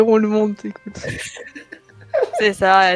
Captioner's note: laugh